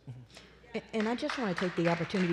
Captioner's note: applause